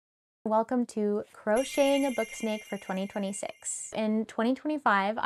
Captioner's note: twinkling sound